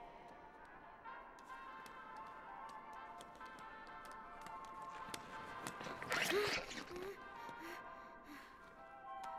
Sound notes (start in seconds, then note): 4.8 gasps, pants